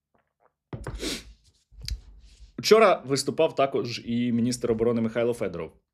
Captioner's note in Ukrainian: сопіння